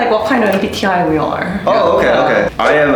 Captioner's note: laughing